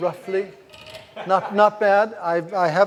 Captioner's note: laughs